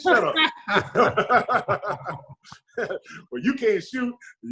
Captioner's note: Sean and David laugh